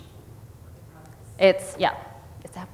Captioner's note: audience member speaks off-microphone